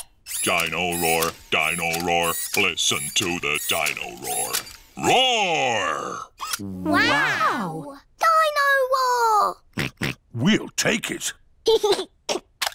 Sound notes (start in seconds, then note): 9.8 oinks; 11.5 giggles